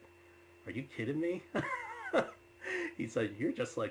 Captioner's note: laughs